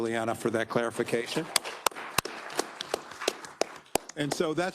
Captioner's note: attendees applauding